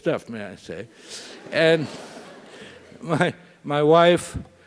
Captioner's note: laugh